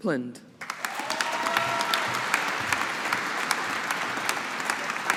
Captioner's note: audience applauding